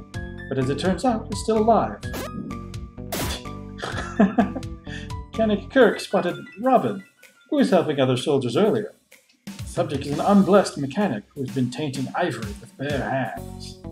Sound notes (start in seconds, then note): 3.8 laughs and snorts